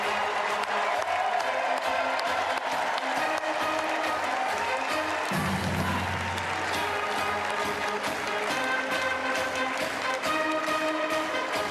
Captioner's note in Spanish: Aplausos